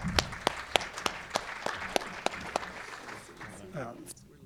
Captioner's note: audience applauding